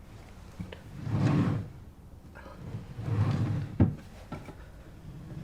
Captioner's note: opening and closing drawers